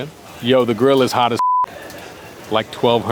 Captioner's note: beeps